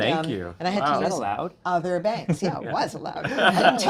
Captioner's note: laughing; attendees laughing